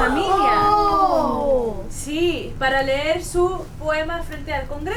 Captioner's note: all gasp